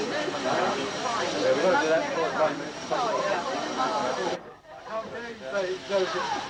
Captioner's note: indistinct chatter